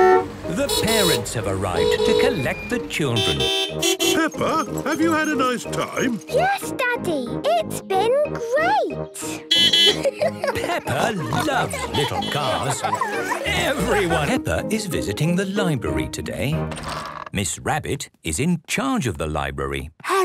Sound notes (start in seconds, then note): 9.4 beeping and laughing; 13.6 laughter; 13.9 beeping; 20.0 whispering